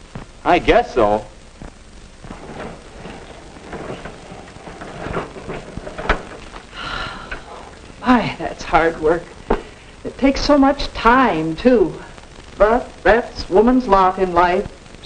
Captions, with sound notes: I guess so. *grinding noises* *weary sigh* My, that's hard work. It takes so much time too. But that's women's lot in life.